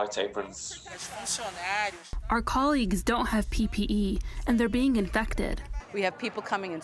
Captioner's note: through translator